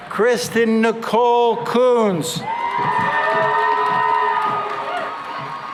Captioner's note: cheering and applause